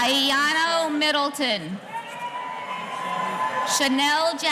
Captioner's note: audience cheering